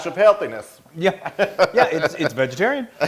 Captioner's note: laugh